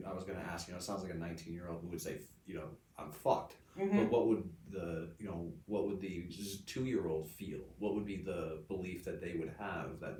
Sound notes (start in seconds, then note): none